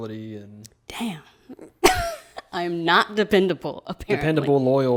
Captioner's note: laughs